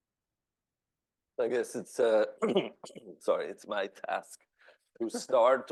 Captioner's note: clears throat